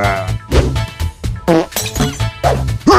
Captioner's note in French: prout